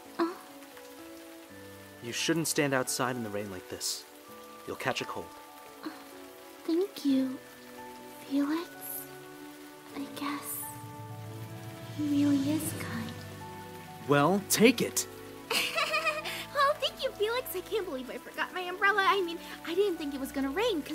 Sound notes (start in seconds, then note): 15.5 giggles